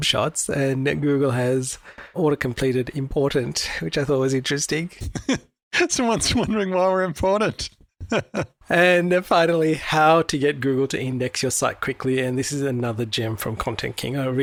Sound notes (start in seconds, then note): 5.0 laughs; 8.0 laughs